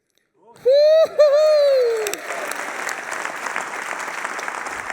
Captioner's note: applause